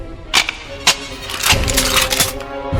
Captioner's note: guns cocking